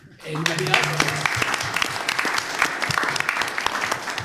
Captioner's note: applause